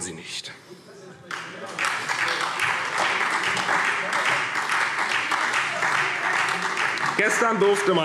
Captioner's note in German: Beifall SPD